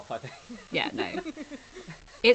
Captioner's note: laughs